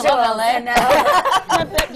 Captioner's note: laughter